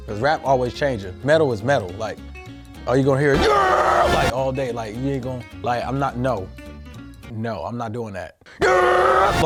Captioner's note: screams